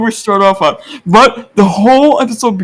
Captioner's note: inhales